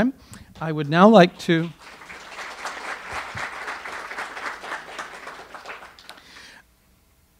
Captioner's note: audience applause